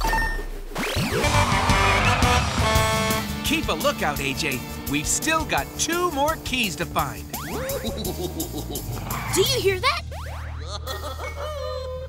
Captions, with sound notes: [horn honking] Keep a look out, AJ. We've still got two more keys to find. [chuckling] Do you hear that? [chuckling]